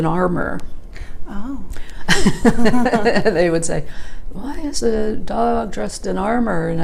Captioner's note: chuckling